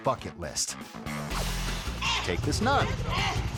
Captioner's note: air whoosh; bike revving